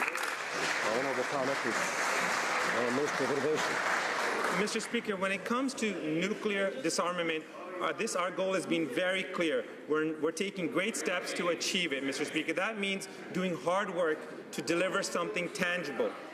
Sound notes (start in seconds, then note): 2.9 some Applause